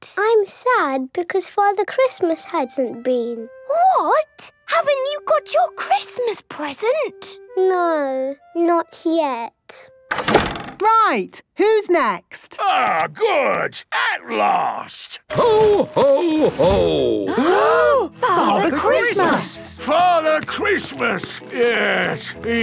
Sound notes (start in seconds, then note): 10.1 doors slamming